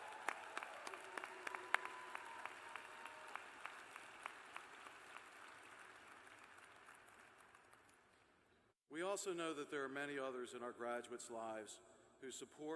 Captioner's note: cheers and applause